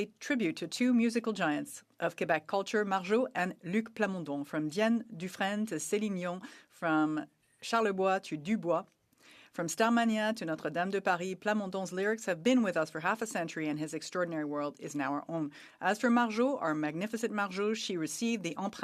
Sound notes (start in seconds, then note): 11.3 speaking French